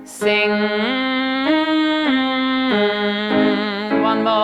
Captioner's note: hits several piano keys; humming NG; hits several higher pitched piano keys